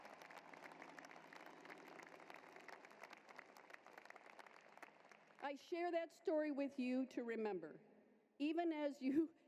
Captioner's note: applause